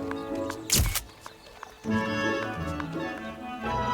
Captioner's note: camera clicks